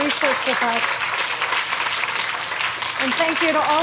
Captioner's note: audience applauding